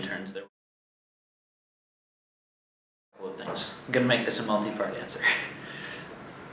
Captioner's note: silence